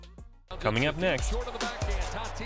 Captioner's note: voiceover; trap music plays